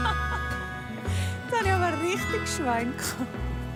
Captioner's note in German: Lachend